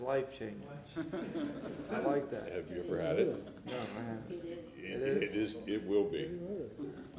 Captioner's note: laughter